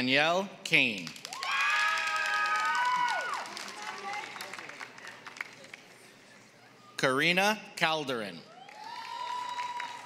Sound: applause; applause

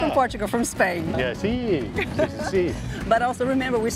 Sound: in Spanish

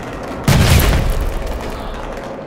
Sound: explosion

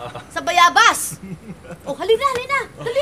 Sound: chuckles

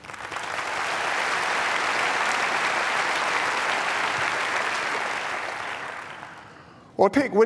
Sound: applause

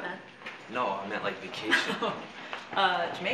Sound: laughs

